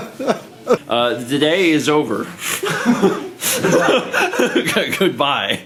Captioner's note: laughs; laughs